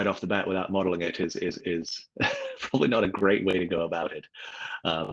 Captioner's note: laughs